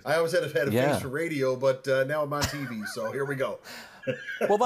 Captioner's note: laughs